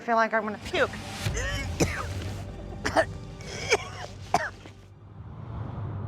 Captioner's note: retching